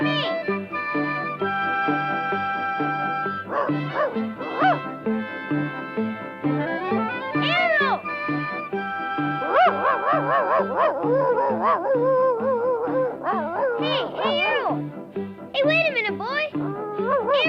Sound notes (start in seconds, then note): 0.3 upbeat music; 3.4 Arrow barking; 9.4 Arrow barking